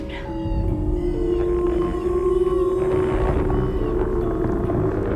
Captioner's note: le tonnerre gronde